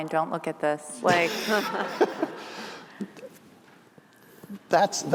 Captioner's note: laughter